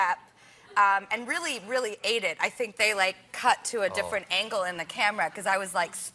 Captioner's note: none